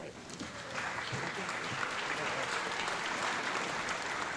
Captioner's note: audience clapping